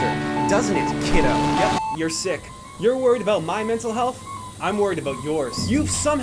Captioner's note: beeping noises playing in background